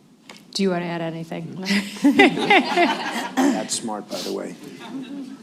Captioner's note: laughter